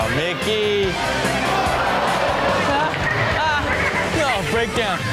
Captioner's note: audience reacts